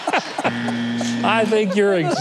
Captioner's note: everyone laughing; buzzer buzzing